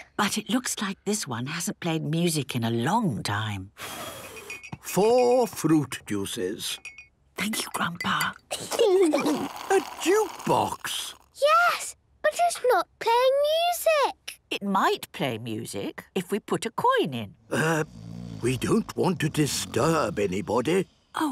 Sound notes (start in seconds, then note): 3.9 blows; 7.0 Granny whispering; 8.6 children giggling; 17.4 people snoring